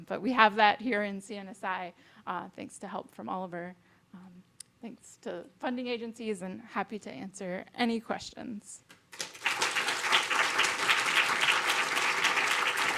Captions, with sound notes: but we have that here in CNSI thanks to help from Oliver. Thanks to the funding agencies and happy to answer any questions. (audience applauding)